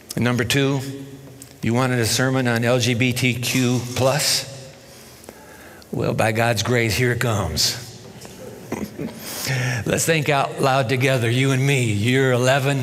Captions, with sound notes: And number two, you wanted a sermon on LGBTQ+? Well, by God's grace, here it comes. [ Chuckles ] Let's think out loud together, you and me.